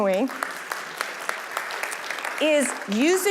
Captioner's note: audience applauding